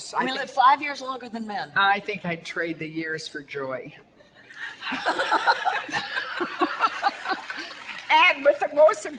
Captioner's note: audience laughter